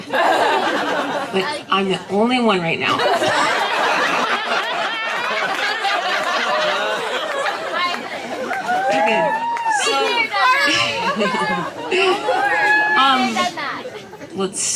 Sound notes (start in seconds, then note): 2.9 laughter